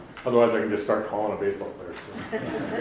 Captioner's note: audience applauding